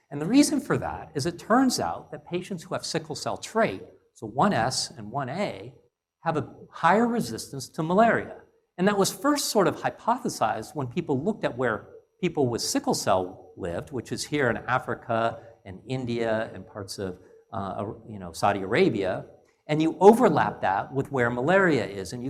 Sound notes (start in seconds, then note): none